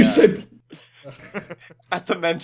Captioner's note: laughter